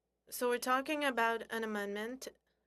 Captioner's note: speaking French